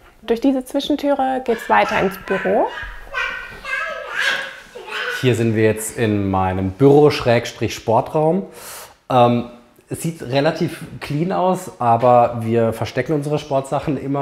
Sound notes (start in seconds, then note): 3.4 children's babbling